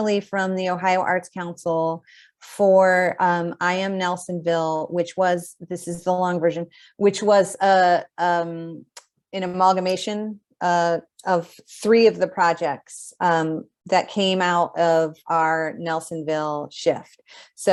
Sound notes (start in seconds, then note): none